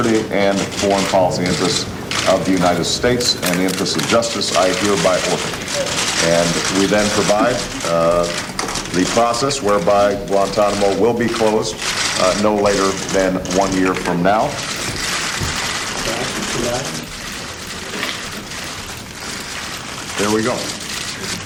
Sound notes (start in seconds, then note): 14.8 camera shutters clicking